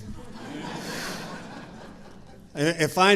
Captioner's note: audience laughing